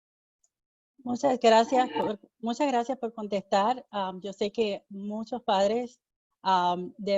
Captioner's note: speaking in foreign language